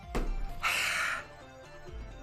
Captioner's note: s i g h